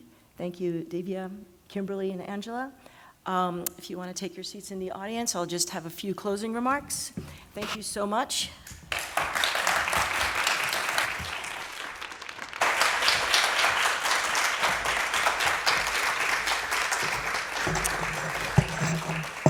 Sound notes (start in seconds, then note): 8.4 applause